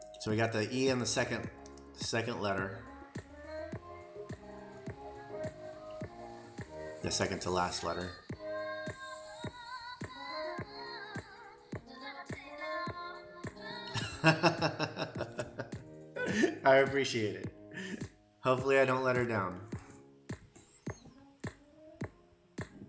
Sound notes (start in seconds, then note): 13.9 laughter